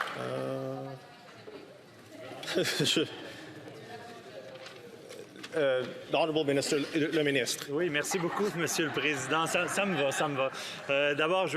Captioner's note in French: rires